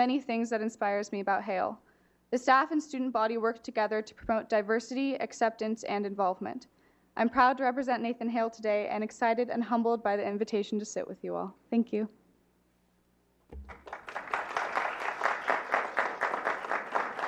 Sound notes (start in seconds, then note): 13.5 clapping